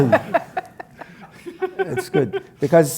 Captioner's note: laugh